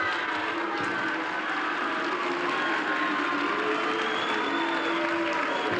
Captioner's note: audience applauding